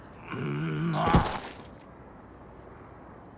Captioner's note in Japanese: うめき声